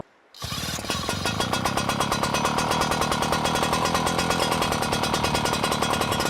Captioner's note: sound of pump running